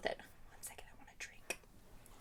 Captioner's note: whispers